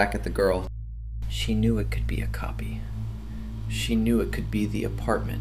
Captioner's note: quietly